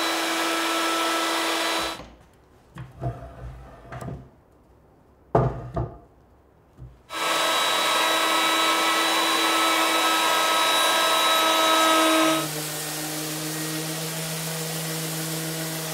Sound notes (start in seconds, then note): 7.1 tool whirring; 12.7 tool humming